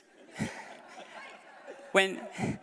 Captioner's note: laughter